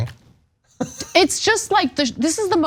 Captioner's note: laugh